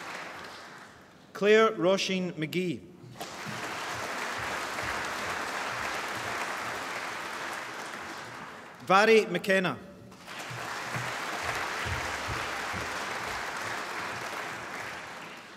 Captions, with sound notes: Clare Róisín McGee (APPLAUSE) Mhairi McKenna (APPLAUSE)